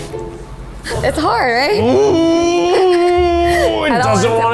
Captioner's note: grunting